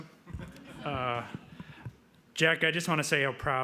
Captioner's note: laughing